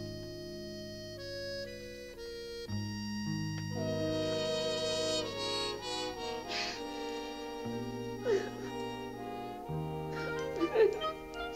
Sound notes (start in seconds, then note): 7.9 cries